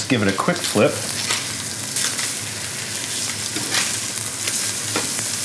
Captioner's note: pan sizzling